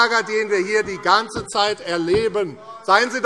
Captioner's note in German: ortgesetzte Zurufe